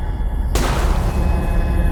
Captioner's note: gun fires